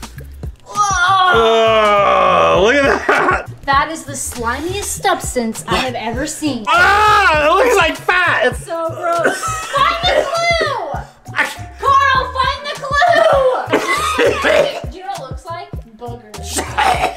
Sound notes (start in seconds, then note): 6.6 screams in disgust; 11.0 gags in disgust; 13.0 coughs and gags; 16.5 gags roughly